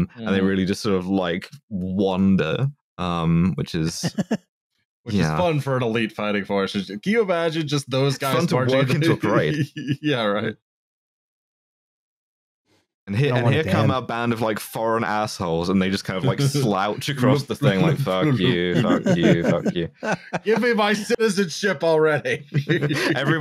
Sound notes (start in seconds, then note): 3.9 laughs; 15.7 laughs